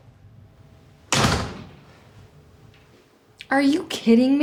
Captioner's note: door thuds